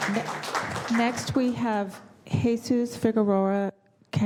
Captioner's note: applause